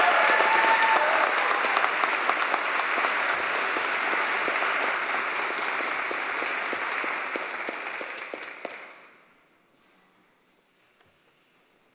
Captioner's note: cheers and applause